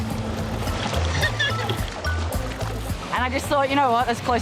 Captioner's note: laughing